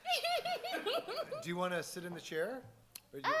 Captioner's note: laughs